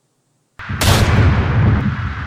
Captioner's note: gunshot